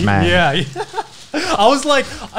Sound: laughs

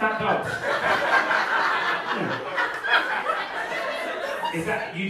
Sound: audience laughing

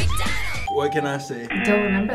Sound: bell rings

